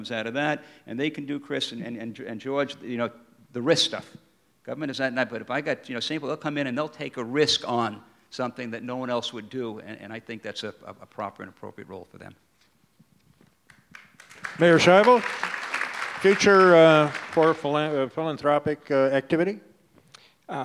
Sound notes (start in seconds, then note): 13.7 audience applause